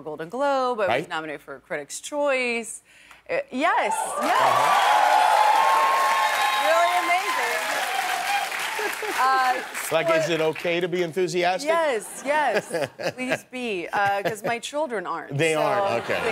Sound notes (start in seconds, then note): 9.5 cheers and applause